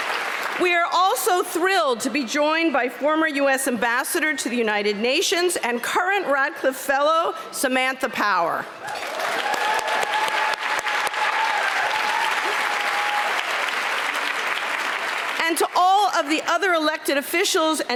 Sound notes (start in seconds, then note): 0.0 applause; 8.8 applause